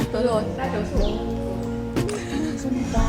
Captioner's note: laughs